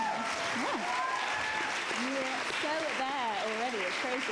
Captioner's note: crowd claps